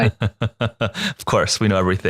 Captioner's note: laughing